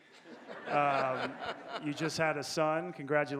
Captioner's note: audience laughing